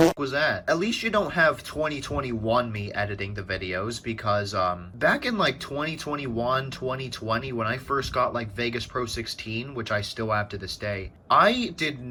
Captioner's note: fart; fart